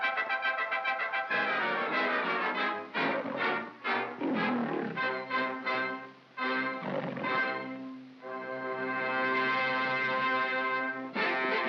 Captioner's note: dramatic orchestral music; lion growling; jaunty music